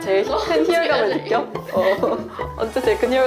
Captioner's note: hahaha